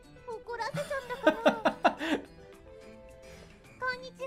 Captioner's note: laughing